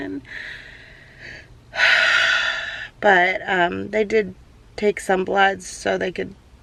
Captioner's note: sighs